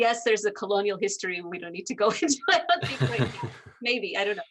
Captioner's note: laughing